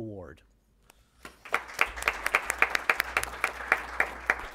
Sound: applause

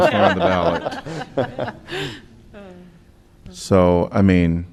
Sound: laughter

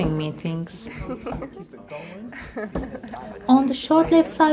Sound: the sounds of a woman laughing softly

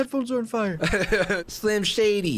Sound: laughing

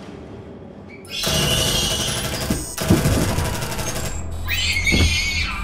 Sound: shrieking sound

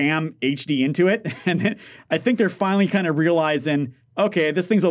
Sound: laughs

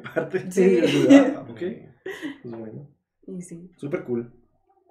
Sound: laughing & agreeing

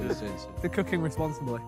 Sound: glasses clank

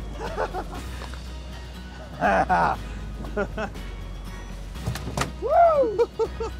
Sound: laughing

